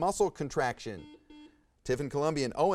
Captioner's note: buzzer buzzes